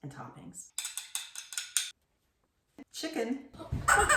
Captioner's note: spoon tapping; chicken squeaking